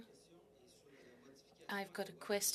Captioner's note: speaking in French